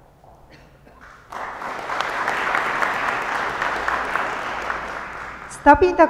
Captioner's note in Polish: oklaski